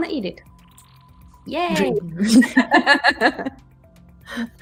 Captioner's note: laughter